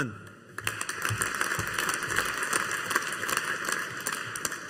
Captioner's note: audience applauding